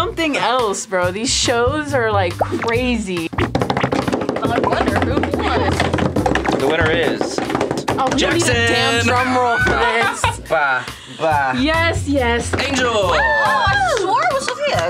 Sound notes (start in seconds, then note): 3.4 table drum roll; 10.8 laughing; 13.0 cheering; 13.1 clapping